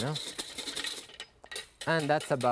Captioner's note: whisk tapping